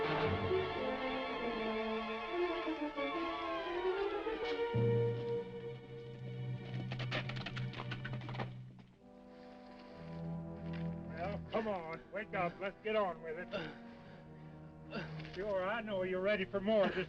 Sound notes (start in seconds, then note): 0.2 horse hooves clopping; 3.9 dramatic music; 7.0 horse hooves clopping; 9.9 dramatic music; 14.8 Cooncat moaning